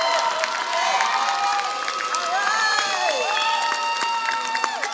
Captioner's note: applause